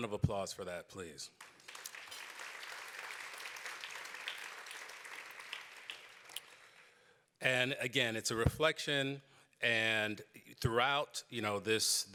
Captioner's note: applause